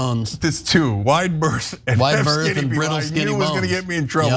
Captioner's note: laugh